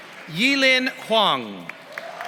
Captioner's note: applause